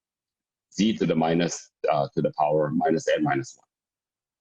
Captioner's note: murmur